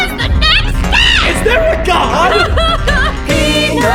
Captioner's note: Donna cries